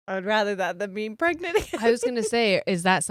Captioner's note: giggles